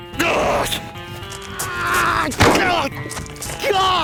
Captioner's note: thunk